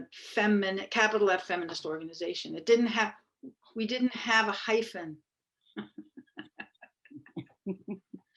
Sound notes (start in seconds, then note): 5.8 laughter